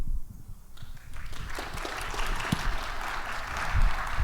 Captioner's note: audience applauding